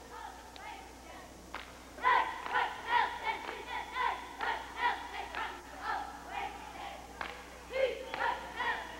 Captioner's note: cheerlead■rs chanting